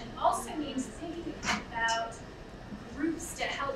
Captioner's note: none